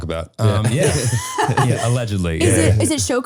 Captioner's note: all laughing